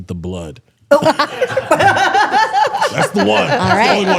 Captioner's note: laughs